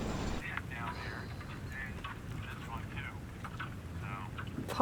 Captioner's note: podcast playing from mobile speaker